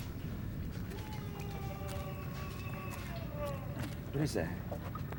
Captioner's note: man screaming